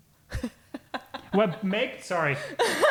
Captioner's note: laughing